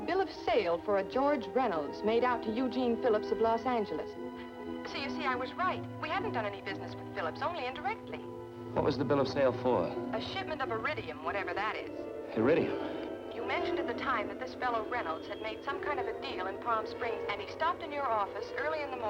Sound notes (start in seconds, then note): 10.7 on phone; 14.0 on phone